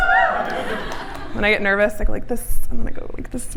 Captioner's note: cheers from audience